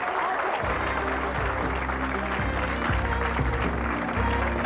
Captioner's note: audience applauds